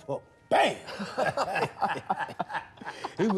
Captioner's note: laughing